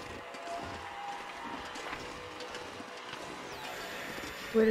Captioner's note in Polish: Aplauz